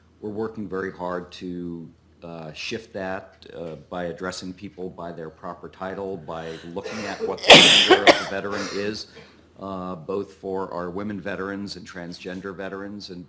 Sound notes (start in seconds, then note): 6.5 people coughing